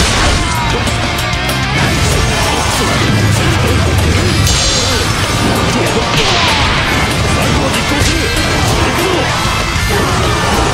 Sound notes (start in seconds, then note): 6.1 boing